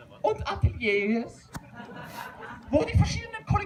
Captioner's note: laughter